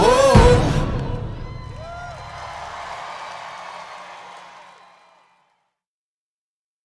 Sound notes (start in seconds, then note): 1.5 applause